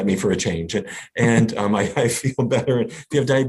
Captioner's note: laughs